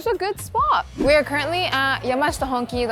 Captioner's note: wind whipping